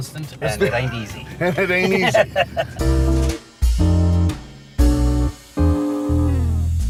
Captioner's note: laughing